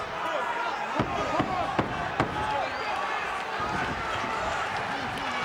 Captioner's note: hands slamming